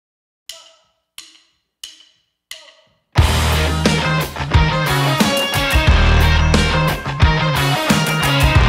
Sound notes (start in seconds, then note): 0.5 drumsticks clacking; 3.1 upbeat rock music